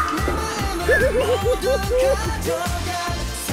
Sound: hahahahaha

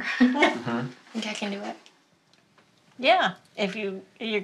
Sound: laughs

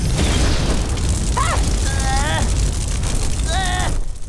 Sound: groaning

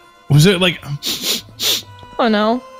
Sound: sniffs

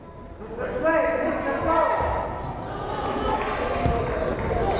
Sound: crowd chattering

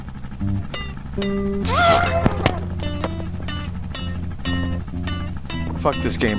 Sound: raging

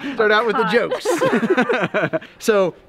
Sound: laughing

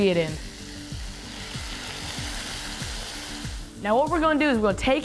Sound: steak sizzling

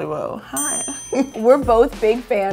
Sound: bell dings

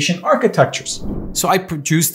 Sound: whooshing

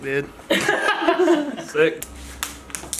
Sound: laughs

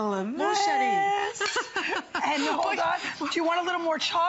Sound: laughter

